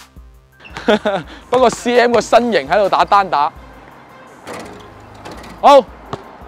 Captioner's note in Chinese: 苦笑